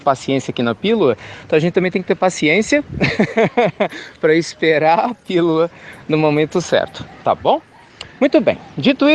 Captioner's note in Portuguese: risos